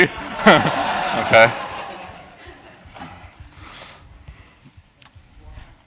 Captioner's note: laugh